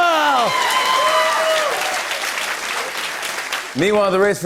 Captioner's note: cheers and applause